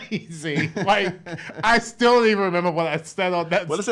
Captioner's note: laughs